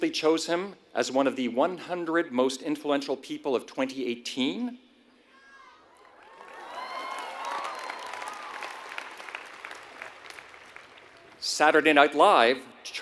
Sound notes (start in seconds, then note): 6.0 applause